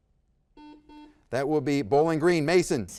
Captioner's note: buzzer buzzes